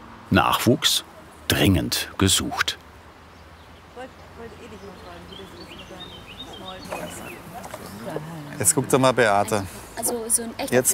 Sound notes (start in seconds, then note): 3.7 soft conversation, birds chirping